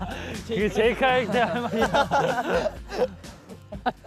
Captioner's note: cracking up from heartfelt exclamation